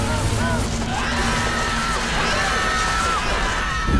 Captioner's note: screaming